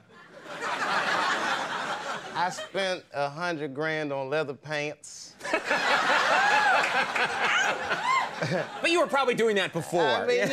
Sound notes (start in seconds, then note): 0.1 audience laughing; 5.5 laughing